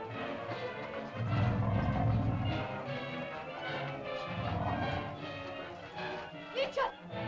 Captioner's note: suspenseful music; dinosaur growls; suspenseful music